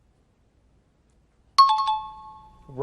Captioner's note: out of time alarm